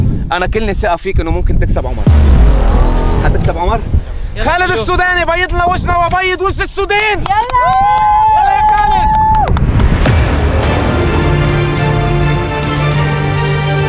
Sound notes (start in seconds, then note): 7.3 crowd cheering; 9.8 cinematic music